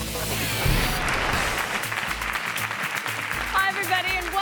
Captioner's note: audience applauds